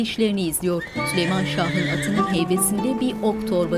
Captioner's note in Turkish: At kişneme sesi